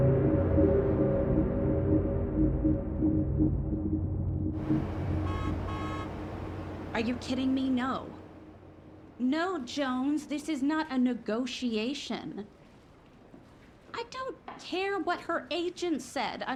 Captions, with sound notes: (intense music continues) (traffic humming) (car horns honking) Are you kidding me? No. No, Jones. This is not a negotiation. I don't care what her agent said.